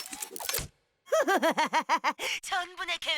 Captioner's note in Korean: 웃음소리